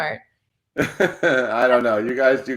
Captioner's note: chuckles softly